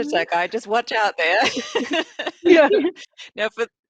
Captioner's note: all laughing